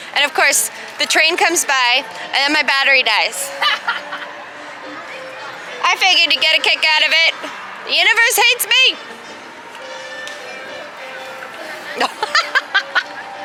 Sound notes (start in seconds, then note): 3.4 laughs